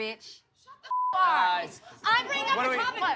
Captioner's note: beep